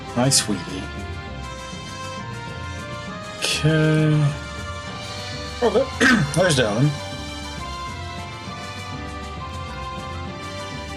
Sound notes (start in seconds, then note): 5.9 coughs